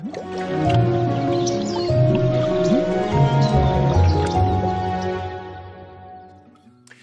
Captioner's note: digital music; birds chirping